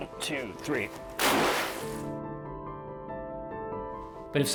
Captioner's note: water splashes